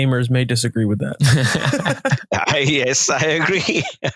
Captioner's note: both laughing